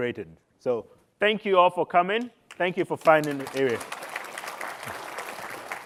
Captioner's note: applause